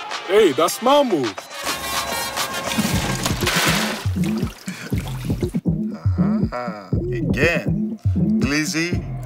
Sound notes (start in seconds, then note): 2.6 ice pours